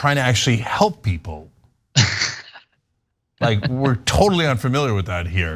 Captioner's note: laugh